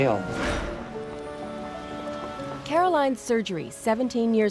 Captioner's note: whoosh